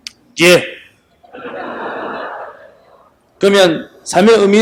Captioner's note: audience Laughter